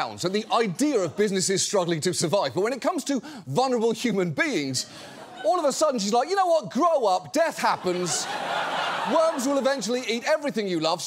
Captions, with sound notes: at the idea of businesses struggling to survive. But when it comes to vulnerable human beings, all of a sudden, she's like, "You know what? Grow up, death happens." (AUDIENCE LAUGHS) "Worms will eventually eat everything you love.